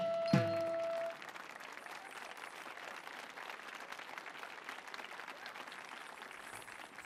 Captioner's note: audience applauding; people cheering